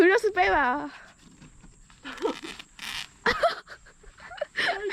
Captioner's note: sound of the tent tearing